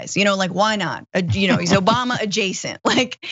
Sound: laugh

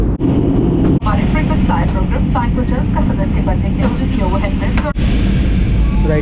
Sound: inflight announcement

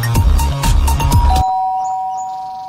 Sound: doorbell sound

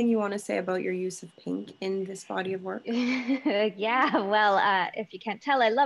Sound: laughing

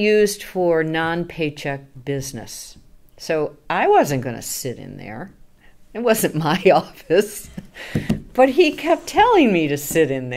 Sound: laughing

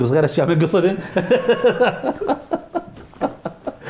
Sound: laughing

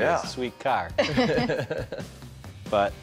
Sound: chuckling

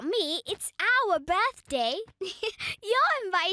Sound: giggling

